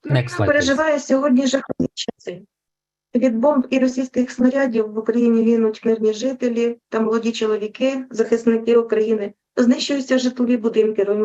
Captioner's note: foreign Language Spoken